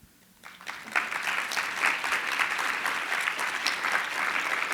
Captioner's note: audience applause